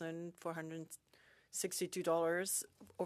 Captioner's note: speaking French